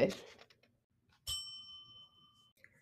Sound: bell dings

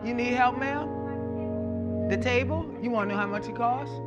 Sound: distant chatter

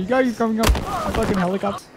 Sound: splat

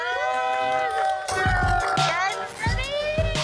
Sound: crowd cheering

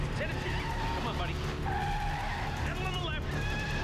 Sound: tires screech

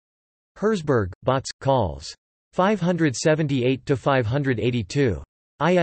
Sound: in German

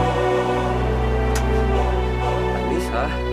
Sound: clicks tongue

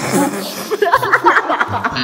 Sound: insert their cute laughs, i'm whipped y'all

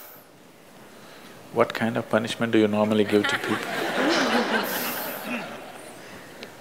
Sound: laughter

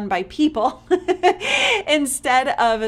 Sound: laughing

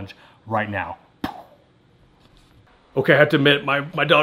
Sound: air whooshing

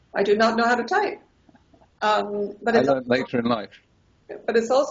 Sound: laughing

